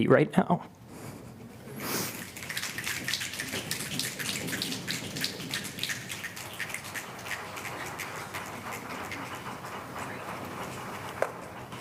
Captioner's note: applause